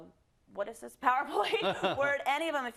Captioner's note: laugh